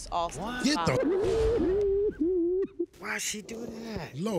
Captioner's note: sobbing